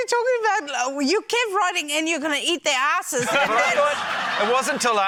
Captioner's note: laughter